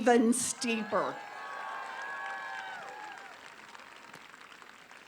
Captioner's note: applause